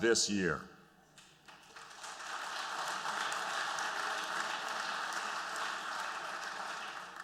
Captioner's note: applause